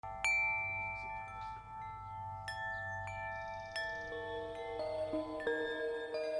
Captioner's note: wind chimes dinging; birds chirping